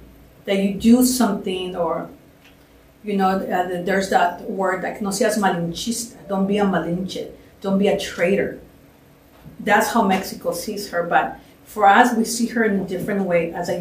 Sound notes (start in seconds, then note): 5.4 spanish